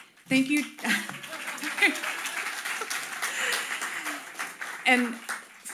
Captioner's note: audience applauding